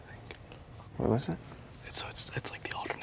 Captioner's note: whispering